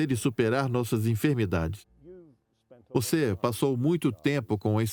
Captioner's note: voiceover